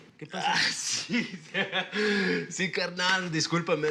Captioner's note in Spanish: Risas